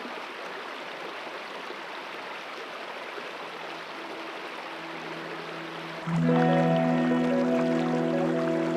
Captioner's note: water rushing